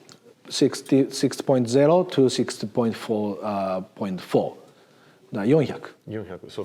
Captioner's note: speaks in Japanese